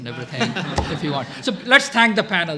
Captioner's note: laughter